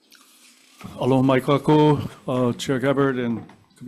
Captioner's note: speaking in foreign language